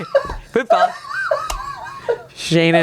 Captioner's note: laughs